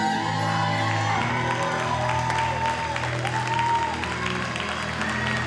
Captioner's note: audience cheers and applauds